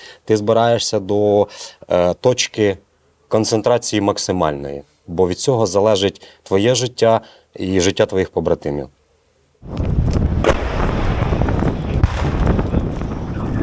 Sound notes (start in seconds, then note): 9.9 explosions and gunshots